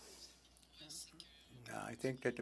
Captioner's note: speaking French